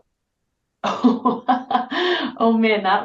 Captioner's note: laughing